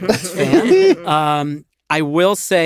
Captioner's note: laughter